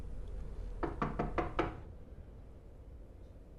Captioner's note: knocking on door